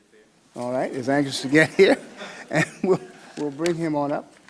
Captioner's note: laughs